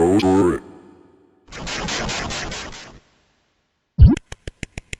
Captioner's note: C64 dissolve sound; Pacman eating sounds